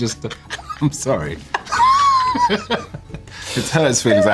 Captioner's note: laughter